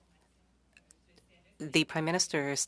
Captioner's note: speaking French